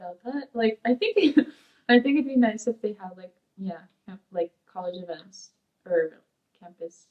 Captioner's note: laughs